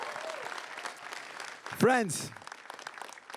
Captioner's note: crowd cheering and applauding